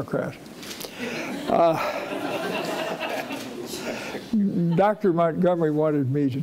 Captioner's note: audience laughing